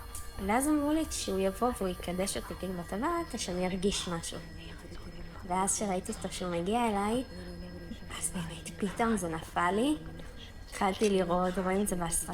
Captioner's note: Hebrew